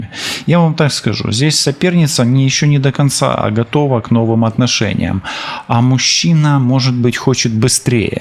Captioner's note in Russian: вздыхает